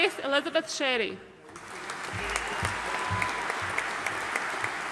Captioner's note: audience applauding